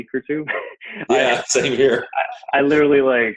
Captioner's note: laughs